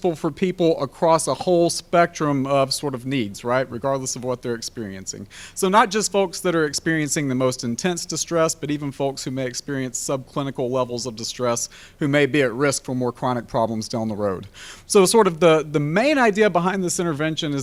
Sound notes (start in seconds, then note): none